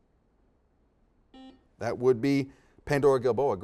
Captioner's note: beeps